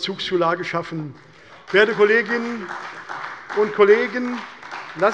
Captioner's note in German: Beifall bei der CDU und dem BÜNDNIS 90/DIE GRÜNEN